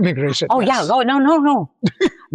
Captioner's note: laughs